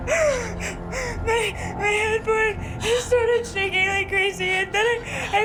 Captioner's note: cries